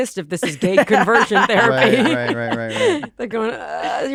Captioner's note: laughs